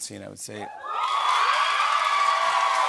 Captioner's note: cheers and applause